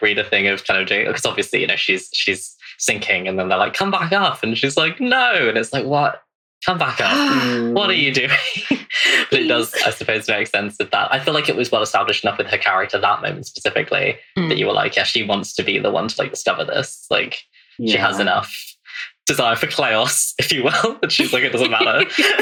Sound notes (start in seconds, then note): 3.7 sighs; 4.2 laughs